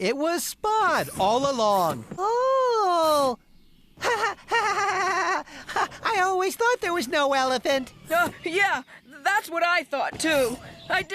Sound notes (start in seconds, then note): 4.0 laughing